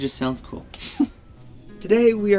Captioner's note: laughter